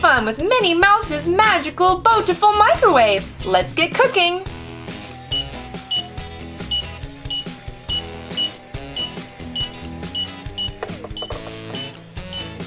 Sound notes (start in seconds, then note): 6.7 timer beeps; 7.9 upbeat instrumental music